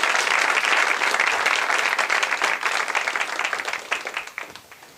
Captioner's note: applause